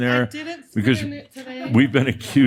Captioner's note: some laughter